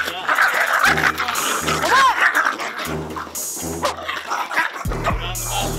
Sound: growling

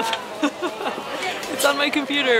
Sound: laughs

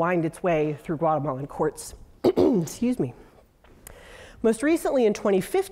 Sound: cough

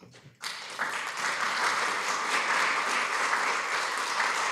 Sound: applause

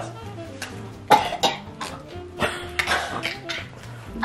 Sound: coughs

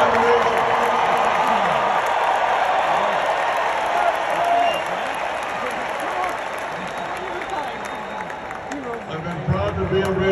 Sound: applause

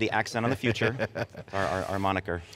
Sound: laughing

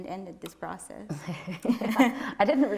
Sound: chuckles

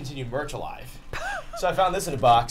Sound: laughs

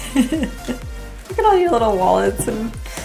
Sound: laughs

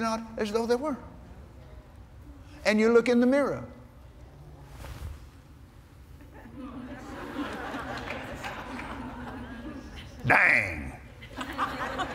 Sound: laughter

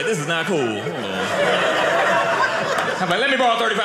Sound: audience laughing

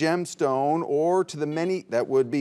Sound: buzzer beeps

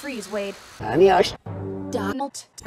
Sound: reversed

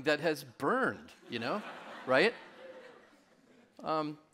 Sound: audience laughing

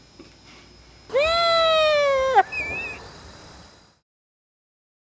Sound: laughs

